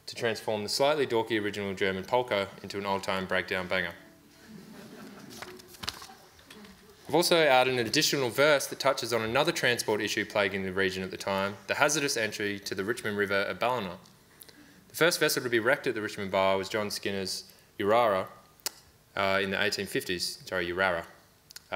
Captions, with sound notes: to transform the slightly dorky original German polka into an old-time breakdown banger. (audience laughs) I've also added an additional verse that touches on another transport issue plaguing the region at the time, the hazardous entry to the Richmond River at Ballina. The first vessel to be wrecked at the Richmond Bar was John Skinner's Yerara, in the 1850s, Joe Yerara,